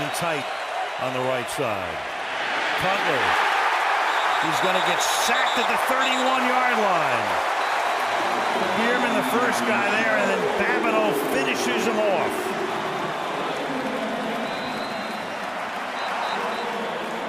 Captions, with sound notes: Olsen in tight on the right side. Cutler is going to get sacked at the 31-yard line. Biermann, the first guy there. And then Babineaux finishes him off. [crowd cheering]